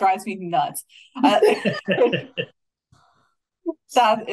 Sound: everybody laughing

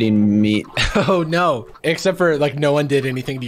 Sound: chuckles

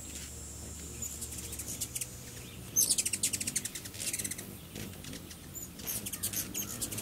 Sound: humming, buzzing, and high-pitched squeak sounds

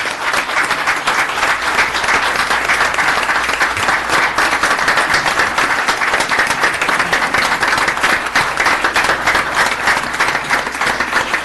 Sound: applause

